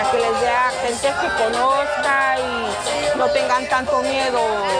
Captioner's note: lively music; singing in Spanish; speaking in Spanish